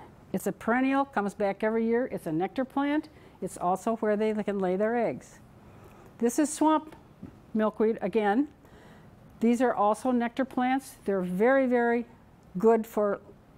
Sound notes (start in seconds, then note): none